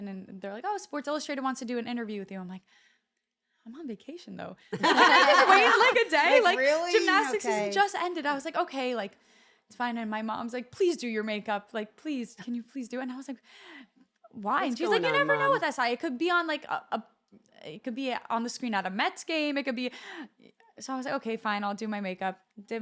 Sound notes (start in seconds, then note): 4.8 laugh